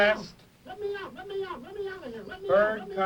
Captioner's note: voiceover